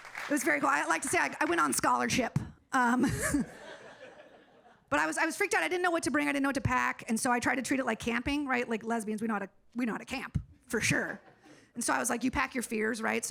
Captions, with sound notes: It was very cool. I like to say I went on scholarship. (audience laughing) But I was, I was freaked out, I didn't know what to bring, I didn't know what to pack. And so I tried to treat it like camping, right? Like lesbians, we know how to, we know how to camp for sure. And so I was like, you pack your fears, right?